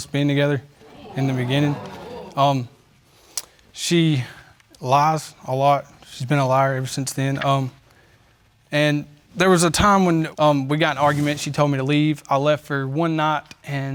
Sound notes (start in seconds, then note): 0.7 audience exclaiming